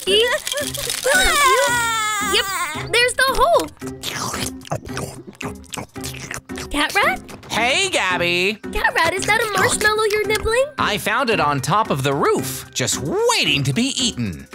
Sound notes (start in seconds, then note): 1.0 crying; 3.6 chomping